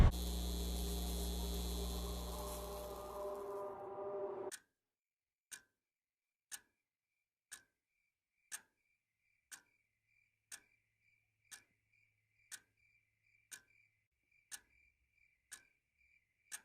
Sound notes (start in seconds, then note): 4.3 a clock ticks. Crickets chirp